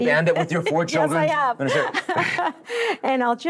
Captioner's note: laughs